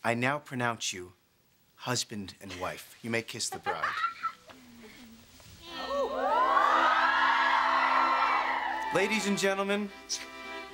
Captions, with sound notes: I now pronounce you husband and wife. You may kiss the bride. (LAUGHS) Ladies and gentlemen,